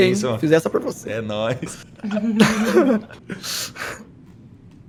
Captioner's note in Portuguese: Risos